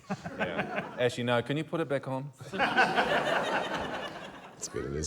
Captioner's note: laughter